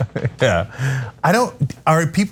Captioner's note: laugh